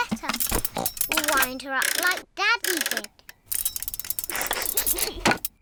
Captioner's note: oink!; laughs